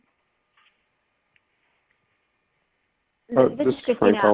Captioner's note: silence